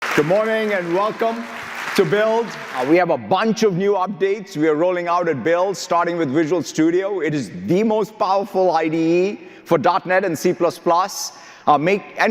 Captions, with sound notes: - Good morning, (audience applauding) and welcome to Build. We have a bunch of new updates we are rolling out at Build, starting with Visual Studio. It is the most powerful IDE for .net and C++,